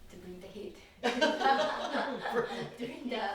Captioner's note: laughter